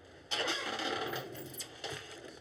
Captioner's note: chair creaks